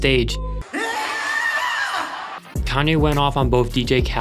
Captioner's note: yelling